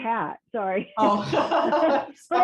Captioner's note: laughing